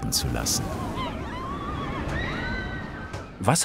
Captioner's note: happy children's screams